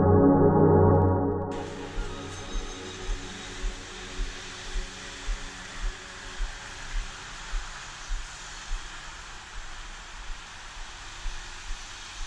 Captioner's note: traffic sounds